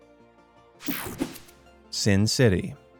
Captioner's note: screen whooshing